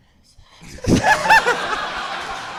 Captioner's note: whispering and hissing; audience and hosts laughing